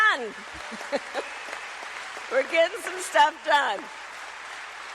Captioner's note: laughs